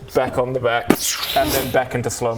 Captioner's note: psshchhchhrrcch